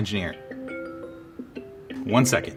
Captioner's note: alarm chiming